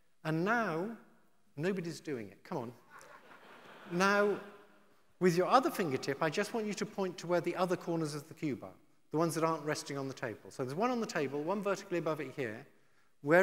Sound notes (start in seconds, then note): 2.9 audience laughing